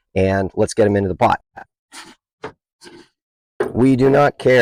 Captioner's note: sloshing noises